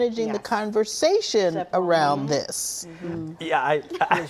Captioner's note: laughr